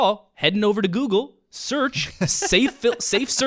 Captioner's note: laughs